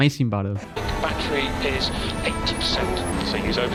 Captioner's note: Team Radio Rosberg